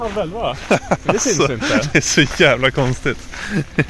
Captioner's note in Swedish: skrattar